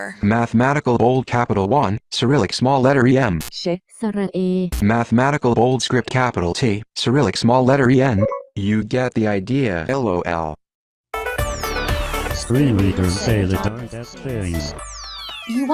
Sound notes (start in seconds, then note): 3.7 electronic voice speaking foreign language; 8.1 software beeps; 11.2 electronic music